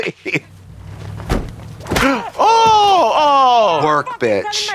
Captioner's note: baseball bat cracks